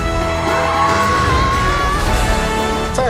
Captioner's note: screaming